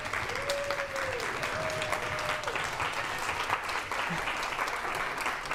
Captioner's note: audience applauds and cheers